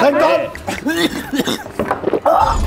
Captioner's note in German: Lachen; Er hustet